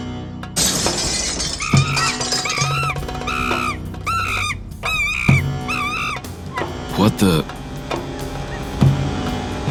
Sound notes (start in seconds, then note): 0.6 glass breaking; 3.0 monkeys screaming